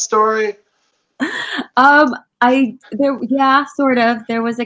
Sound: laughing

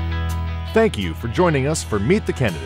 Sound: voiceover

